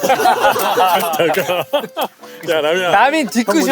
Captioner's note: scratching